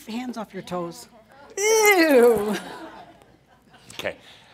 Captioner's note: some chuckles